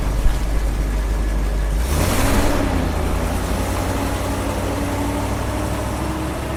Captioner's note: truck accelerating away